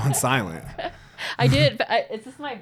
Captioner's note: both laughing